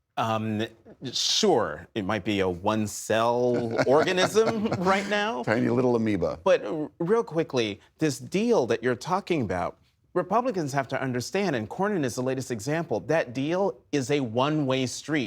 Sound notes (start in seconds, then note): 3.4 laughter